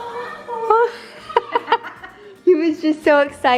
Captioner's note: laughs